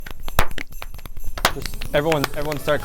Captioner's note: everyone clapping